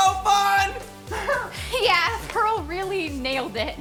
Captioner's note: chuckles